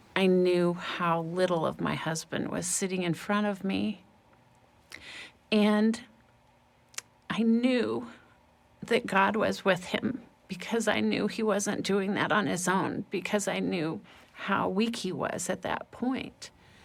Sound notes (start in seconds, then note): none